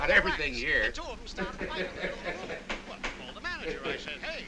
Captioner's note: man chattering on radio